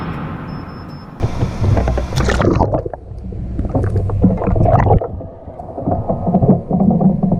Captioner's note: reactor sound underwater and color changing to blue